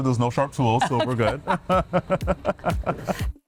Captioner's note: both laughing; upbeat music